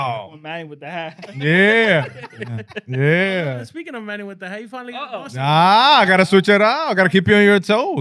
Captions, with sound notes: One man with the hat. Yeah. (Laughing) Yeah. Speaking of man with the hat, you finally got the awesome one. Ah, I gotta switch it out. I gotta keep you on your toes.